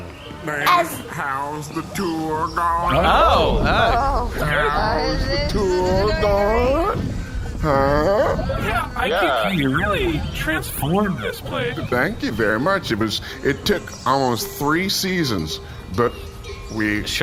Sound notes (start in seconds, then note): 7.7 uneasy noises; 9.7 vibrates uncomfortably in the background